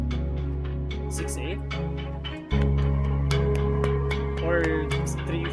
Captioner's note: clapping in 6/8